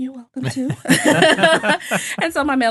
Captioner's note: all laughing